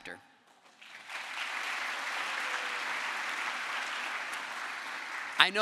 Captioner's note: crowd applause